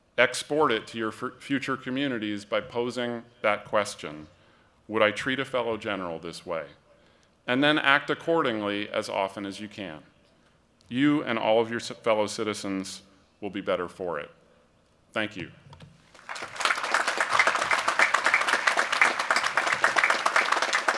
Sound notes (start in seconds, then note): 16.0 applause